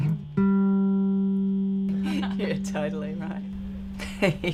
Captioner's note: women laugh; woman 2 laughs